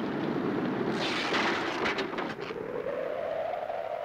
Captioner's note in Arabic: هبوب الريح